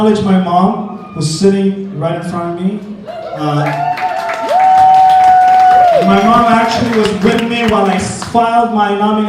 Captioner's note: applause wooooooo